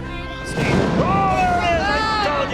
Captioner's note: thunder rumbling; russ exclaiming